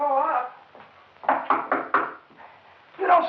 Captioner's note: Number One knocking